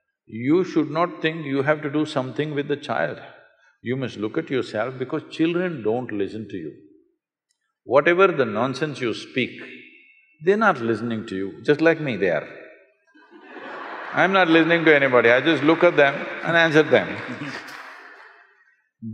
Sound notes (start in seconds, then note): 13.2 laughter; 18.2 applause